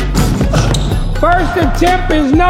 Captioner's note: dunk sound